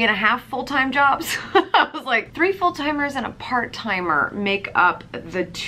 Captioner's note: laughs